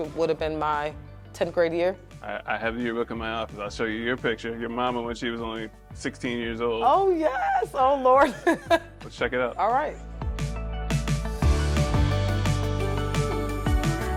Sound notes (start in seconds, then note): 8.2 chuckles; 10.6 gentle upbeat music